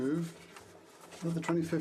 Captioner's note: speaking French